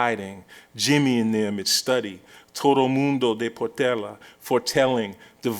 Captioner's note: non-english speech